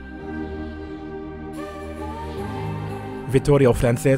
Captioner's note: voiceover